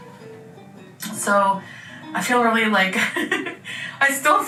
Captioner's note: laughs